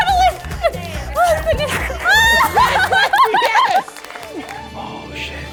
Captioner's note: laughs